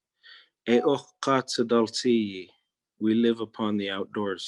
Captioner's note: speaking in Native Language